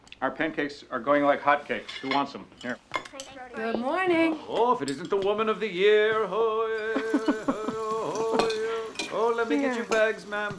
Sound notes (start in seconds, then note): 6.1 chanting; 6.2 laughing